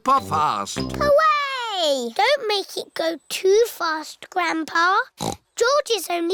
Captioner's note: snorts